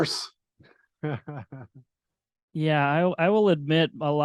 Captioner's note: laughing